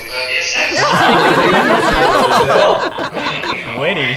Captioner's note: tries not to laugh but fails